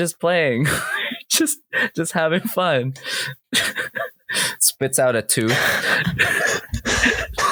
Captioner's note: laughter